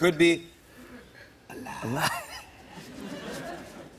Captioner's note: laughs